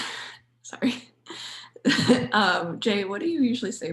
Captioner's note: chuckles